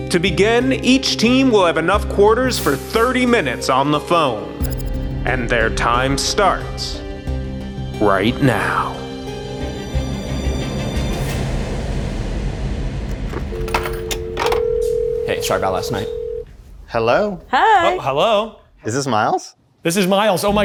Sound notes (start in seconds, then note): 14.2 dial tone blares